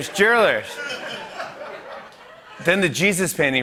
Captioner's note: laughter